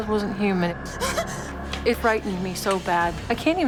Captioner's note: Jennifer gasps